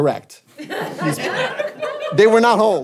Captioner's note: audience laughing